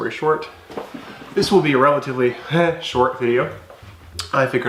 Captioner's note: scoff